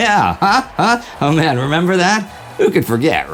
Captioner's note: insert applause